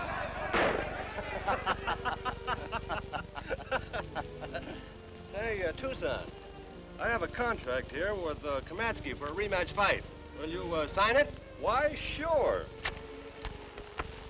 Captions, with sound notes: [laughter] Hey Tuscon, I have aco for a rematch fight. Will you sign it?